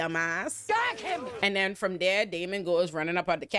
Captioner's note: audience laughing